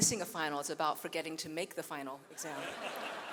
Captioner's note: audience laughs; laughs